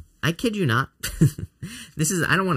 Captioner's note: laughing